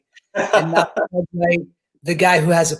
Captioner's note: laughing